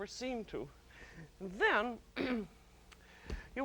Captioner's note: clears throat